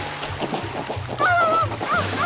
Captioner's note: dog barks